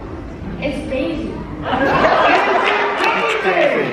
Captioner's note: all laughing